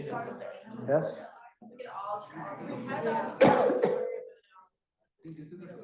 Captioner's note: coughs